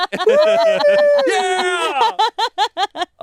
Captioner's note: all laugh